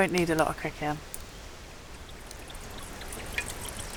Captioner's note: fire crackling; water gluggling